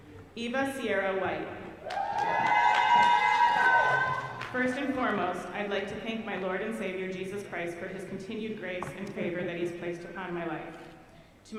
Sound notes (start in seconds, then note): 1.8 audience cheering